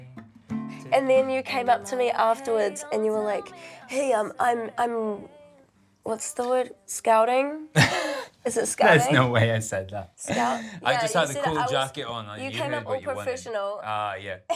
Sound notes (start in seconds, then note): 7.7 laughs; 10.3 laughs